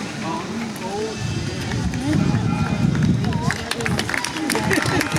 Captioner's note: applause